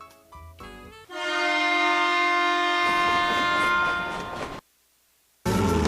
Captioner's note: Sifflet de train; Musique érotique